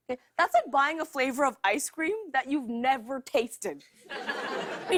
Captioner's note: laughter